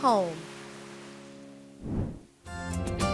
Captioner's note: whoosh